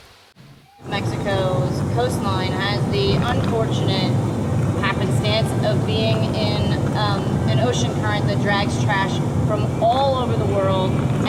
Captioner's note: over bus noise